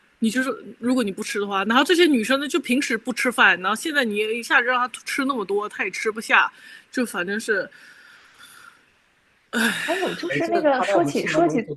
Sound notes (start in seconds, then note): 9.6 sigh